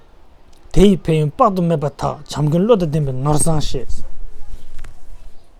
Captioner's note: tibetan